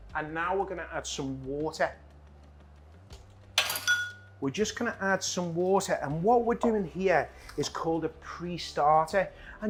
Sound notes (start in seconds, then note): 3.6 glass clinks